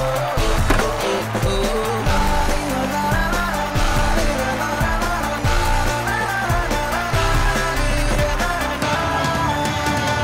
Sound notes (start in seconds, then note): 1.9 cheering and applauding